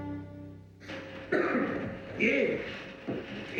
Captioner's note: coughing